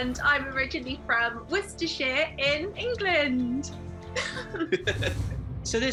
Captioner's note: chuckling